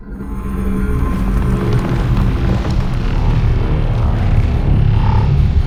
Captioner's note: the sound goes crazy